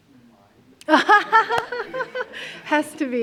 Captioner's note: laughter